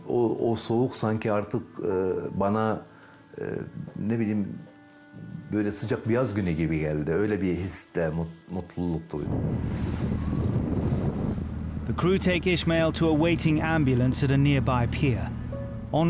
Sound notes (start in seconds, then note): 4.0 continues speaking in foreign language; 9.2 boat droning; 9.2 wind whooshing